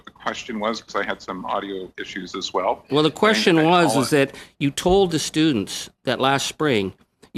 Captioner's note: speaking French